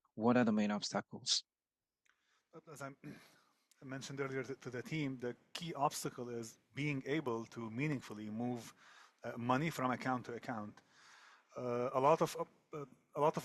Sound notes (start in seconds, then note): 0.7 speaking French